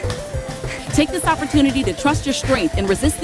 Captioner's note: app Voice